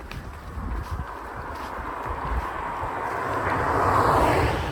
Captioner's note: footsteps; car engine roars